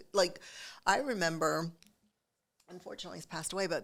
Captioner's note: none